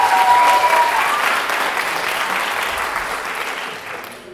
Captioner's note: applause